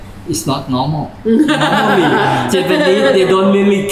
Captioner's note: laughter